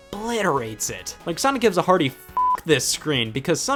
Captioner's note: beep